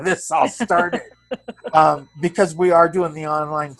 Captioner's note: laughs